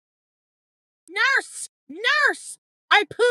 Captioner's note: Chantal screams